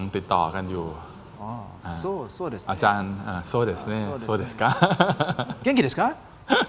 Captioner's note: laughter